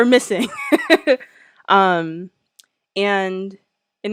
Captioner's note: laughs